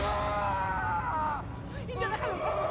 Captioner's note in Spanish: grito